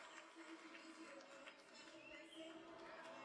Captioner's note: applause